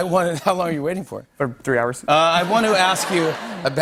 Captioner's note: laughter